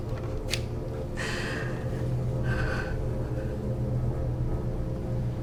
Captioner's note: breathes shakily